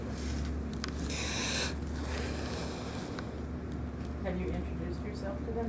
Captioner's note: inhaling sharply